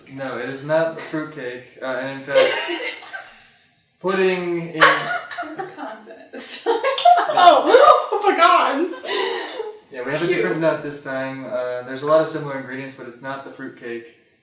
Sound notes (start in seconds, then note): 2.3 laughter; 4.7 laughter; 8.5 laughter